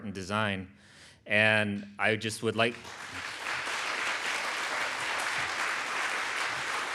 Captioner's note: audience applauds